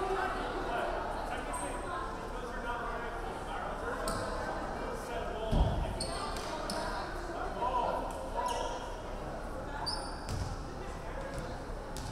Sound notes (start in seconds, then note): none